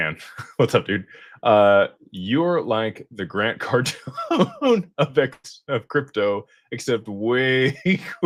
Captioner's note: laughter